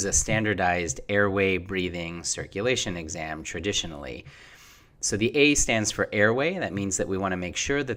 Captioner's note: Breathing